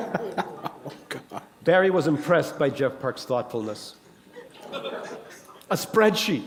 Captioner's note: chuckle